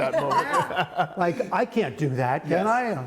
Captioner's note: laughter